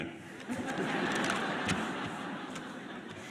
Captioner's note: laughter